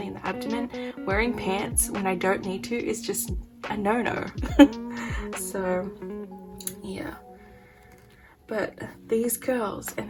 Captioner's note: laugh